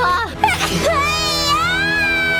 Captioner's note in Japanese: くしゃみ